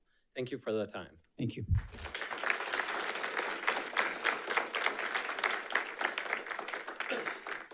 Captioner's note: audience applauding